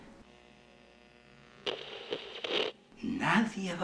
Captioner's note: sound of radio buzzing